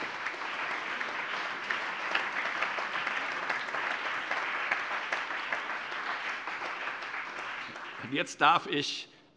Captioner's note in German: Allgemeiner Beifall